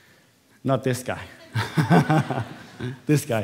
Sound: laughter

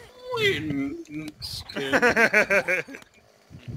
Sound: laughs

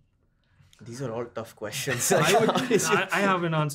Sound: laughs

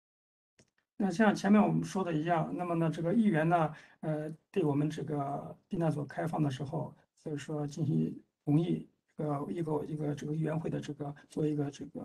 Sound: speaks in Mandarin

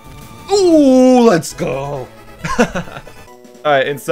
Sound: laughs

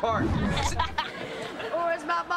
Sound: laughing

